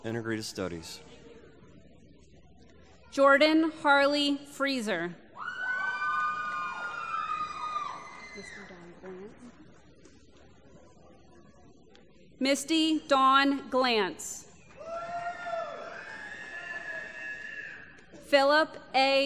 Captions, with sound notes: from School of Integrated Studies. >> Jordan Harley Freezer. [ Cheering ] Misty Dawn Glantz. [ Applause ] Philip A. Jackson.